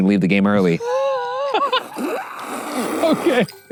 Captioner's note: laughing; slurping